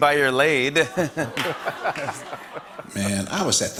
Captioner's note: laughter